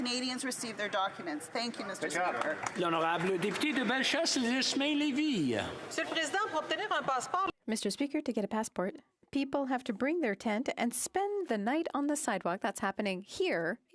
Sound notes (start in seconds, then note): 10.7 speaking French